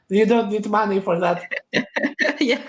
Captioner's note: both laugh